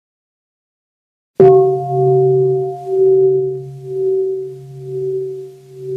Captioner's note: bell